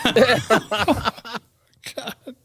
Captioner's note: laughter